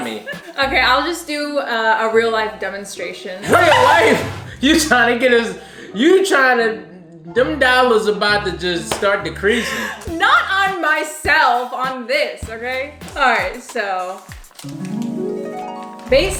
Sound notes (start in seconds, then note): 3.4 laughing; 14.7 harp music